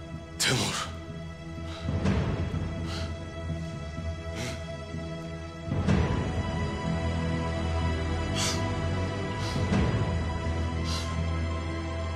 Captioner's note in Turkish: Nefes sesleri